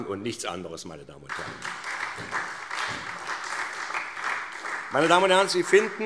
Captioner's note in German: Beifall SPD